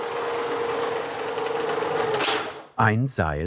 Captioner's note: the rattling stops